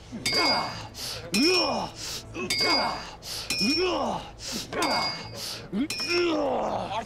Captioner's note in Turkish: Kılıç sesleri